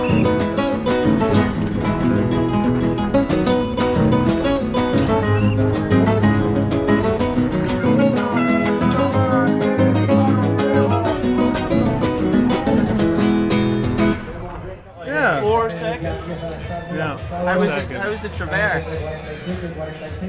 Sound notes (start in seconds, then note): 0.0 whistle chirping; 1.3 classical guitar music; 5.0 whistle chirping; 8.5 horn honking; 9.3 classical guitar music